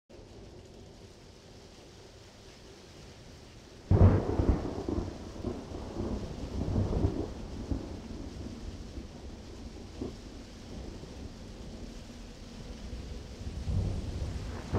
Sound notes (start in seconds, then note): 0.0 rain; 3.8 thunder and rain